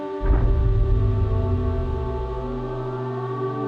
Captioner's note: power clanking